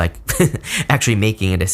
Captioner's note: reader laughs